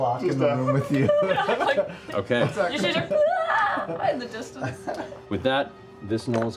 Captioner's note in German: schwacher Schrei